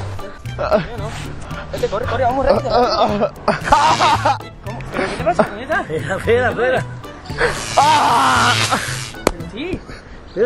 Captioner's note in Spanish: Gritos